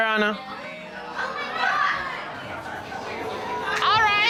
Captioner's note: indistinct chatter